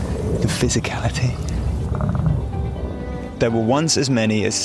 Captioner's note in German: Bison grunzt; Bisongrunzen